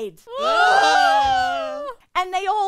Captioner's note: sailors screaming